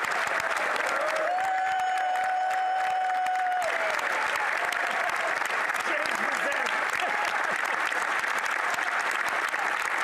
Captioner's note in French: applaudissements